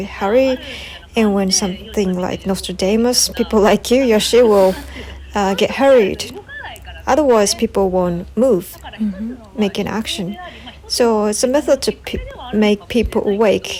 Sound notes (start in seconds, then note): 4.3 laughs